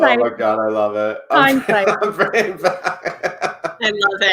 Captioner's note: laughs